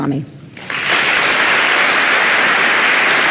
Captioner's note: applause